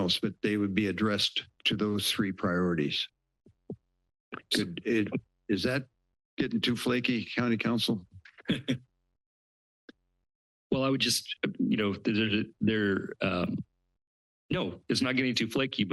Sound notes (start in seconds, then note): 8.3 laughs